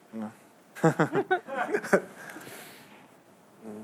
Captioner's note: laughter